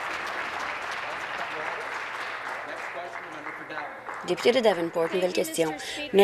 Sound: applause

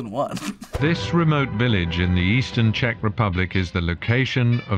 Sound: chuckles; voice-over

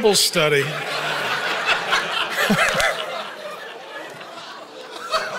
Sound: audience laughing

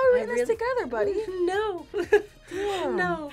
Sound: laughs

